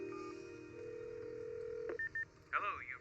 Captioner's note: phone rings